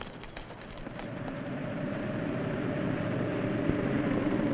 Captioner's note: strong wind howls